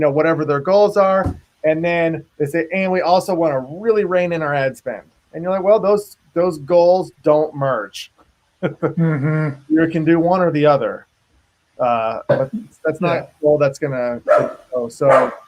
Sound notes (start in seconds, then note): 8.6 laughs